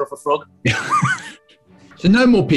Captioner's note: sniggering